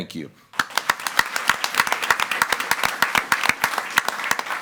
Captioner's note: all applauding